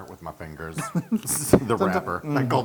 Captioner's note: laugh